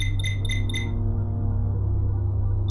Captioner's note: communicator chimes